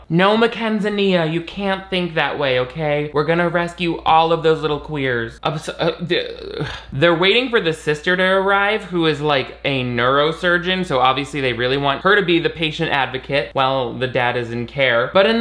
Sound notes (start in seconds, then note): none